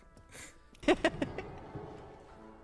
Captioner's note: sniffling; laughs